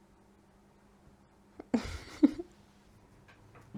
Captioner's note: giggles